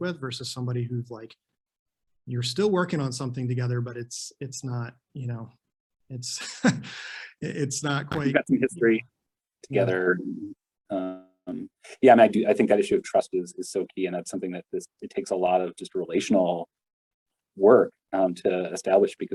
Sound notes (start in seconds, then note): 6.3 chuckles